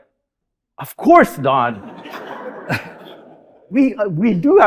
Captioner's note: audience laughing